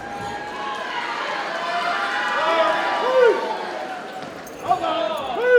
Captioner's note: audience cheers and applauds